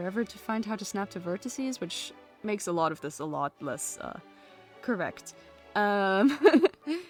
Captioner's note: laughs